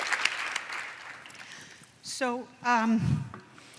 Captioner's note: applause